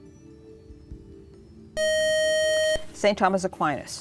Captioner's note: buzzer